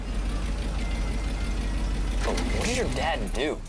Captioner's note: motor running